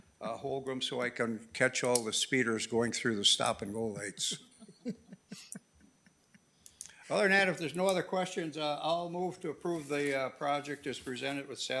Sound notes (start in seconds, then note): 4.0 members chuckling